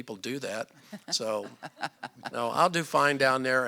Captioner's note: laughter